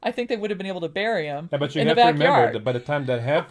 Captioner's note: laughs